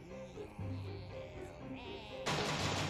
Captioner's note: zombies chanting